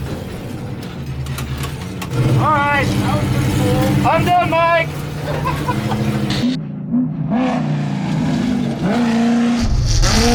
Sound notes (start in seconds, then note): 5.2 laughing